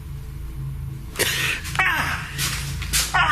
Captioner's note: gasps